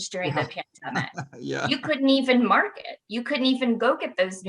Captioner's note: laughs